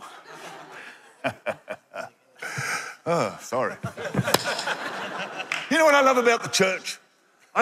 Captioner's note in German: Gelächter